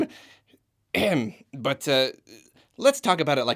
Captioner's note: clears throat